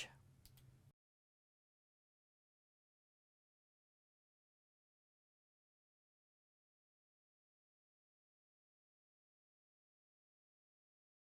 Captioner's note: no Sound Present